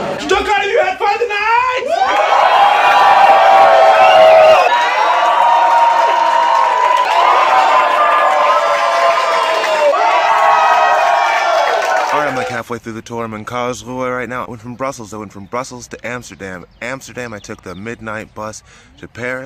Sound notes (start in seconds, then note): 1.8 cheers and applause